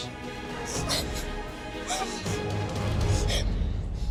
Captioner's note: crying